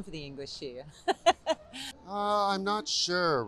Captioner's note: laughs